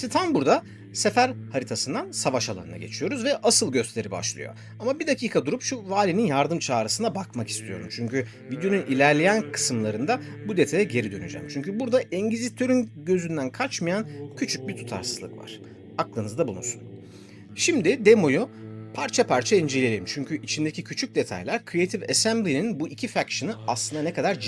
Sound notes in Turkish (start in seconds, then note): 17.2 homurdanır